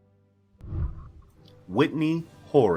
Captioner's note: whooshing